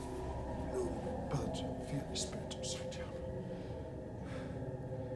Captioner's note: mumbles in foreign language